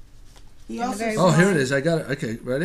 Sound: voiceover

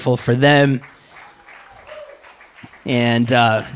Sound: applause

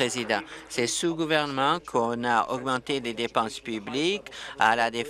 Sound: applause

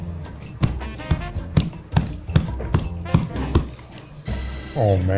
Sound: stomping foot

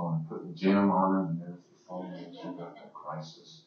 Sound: audience laughing

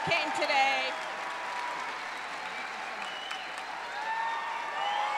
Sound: audience cheering

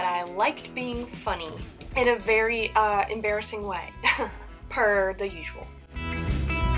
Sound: laughs

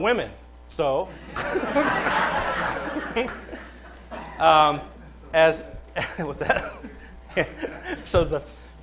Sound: laughter

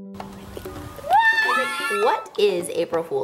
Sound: kids screaming

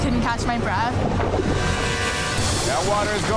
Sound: dramatic music; water splashing

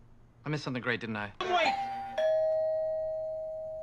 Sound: doorbell

